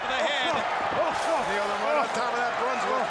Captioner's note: crowd chatter